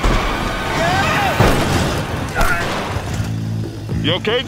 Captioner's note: laud crashing; intense music; screaming